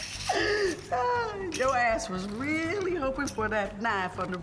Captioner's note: laughs